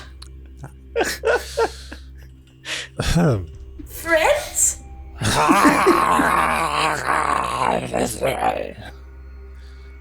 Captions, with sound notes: Ahem. friends? (more feral sounds)